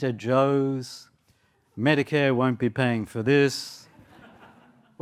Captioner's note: laughter